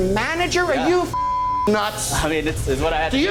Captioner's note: beep